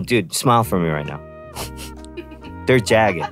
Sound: laughing in background

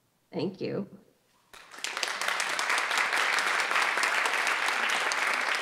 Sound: audience applauding

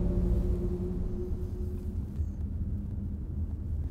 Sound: car engine growling

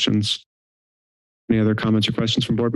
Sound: silence

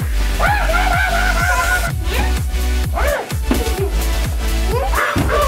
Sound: screaming; making monkey noises

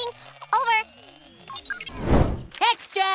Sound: electronic beeping

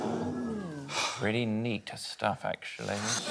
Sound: audience gasps

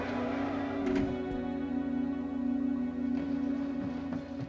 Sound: door clinking

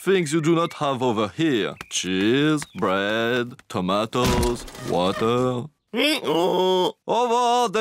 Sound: brays

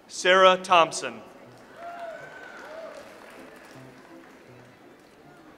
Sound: audience applauds

